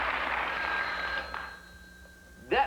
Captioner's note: ring